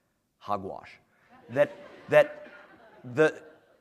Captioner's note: laughter